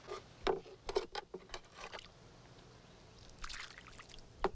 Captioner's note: ladle clacking; water sloshes